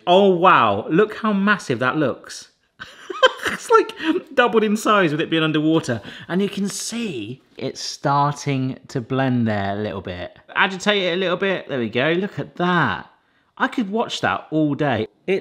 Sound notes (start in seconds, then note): 2.8 laughs